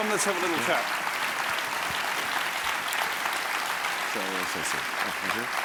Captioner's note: audience clapping